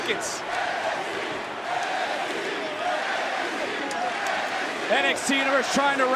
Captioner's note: crowd chants "nxt"